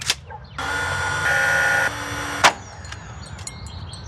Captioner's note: tool whirring